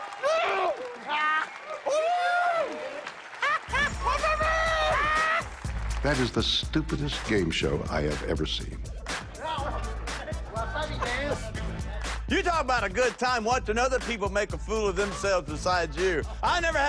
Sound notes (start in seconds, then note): 0.1 screaming; 3.0 cheers and applause; 9.2 speaking Japanese